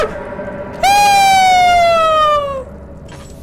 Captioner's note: screams